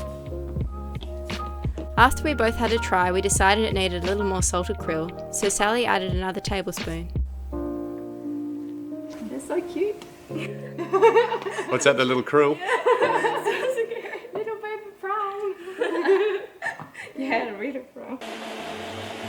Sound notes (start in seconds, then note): 10.3 laughing